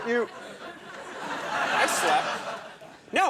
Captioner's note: audience laughs